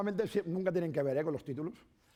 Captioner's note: speaking spanish